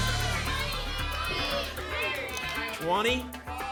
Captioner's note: audience shouting numbers